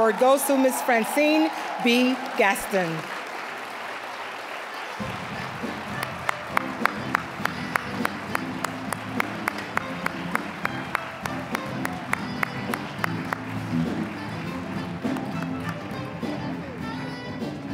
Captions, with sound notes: goes to Ms. Francine B. Gaston. (applause) (upbeat jazzy music)